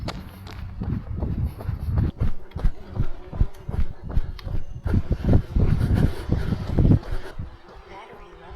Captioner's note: wind blowing